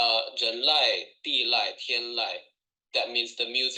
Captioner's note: speaks foreign language